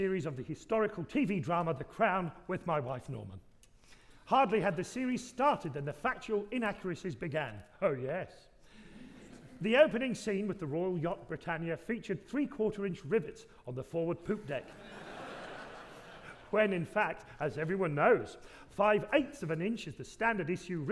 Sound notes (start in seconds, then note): 14.6 audience laughing